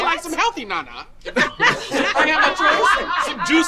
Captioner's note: group laughing